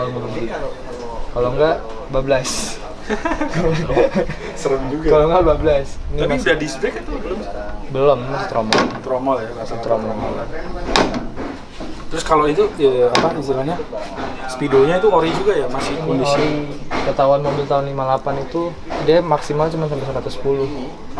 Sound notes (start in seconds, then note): 3.0 laughing